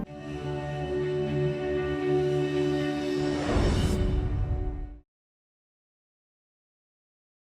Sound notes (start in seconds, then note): 0.0 bright music; 3.3 air whooshes